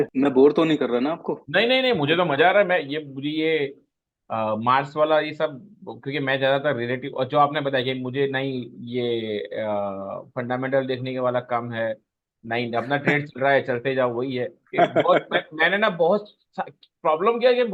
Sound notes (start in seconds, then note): 14.7 laughs